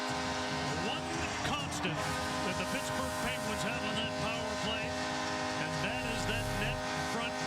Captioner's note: cheers and applause; horn blaring